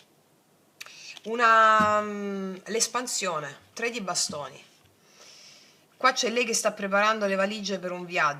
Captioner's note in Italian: sbuffare